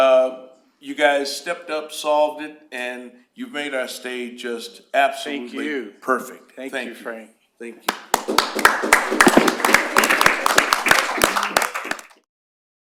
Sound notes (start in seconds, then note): 7.8 applause